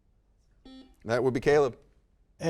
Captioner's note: buzzer dings